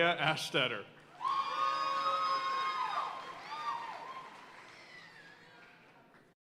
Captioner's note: audience cheering and applauding